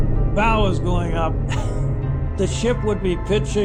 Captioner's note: coughs